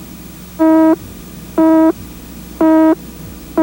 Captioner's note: beep